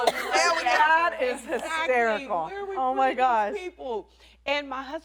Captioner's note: laughter